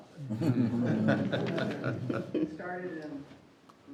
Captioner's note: group members laughs